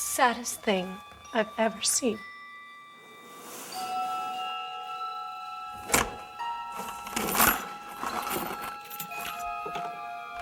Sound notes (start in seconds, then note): 6.7 purse contents dropping